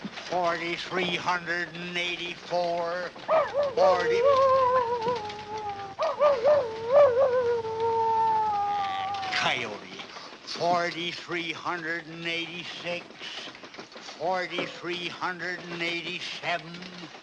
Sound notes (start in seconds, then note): 3.3 barking; 5.9 howling